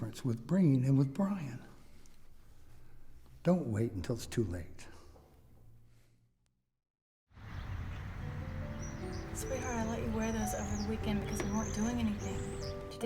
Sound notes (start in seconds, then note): 7.4 birds chirping; 7.5 gentle music